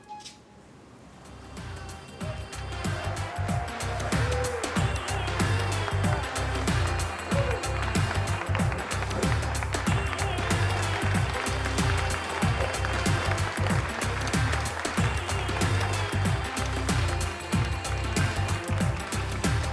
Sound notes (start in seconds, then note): 1.5 indian music; 3.8 audience applauds